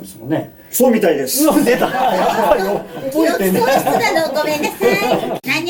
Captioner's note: laughs